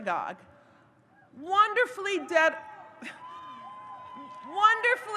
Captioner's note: audience cheers